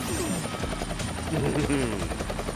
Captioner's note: chuckles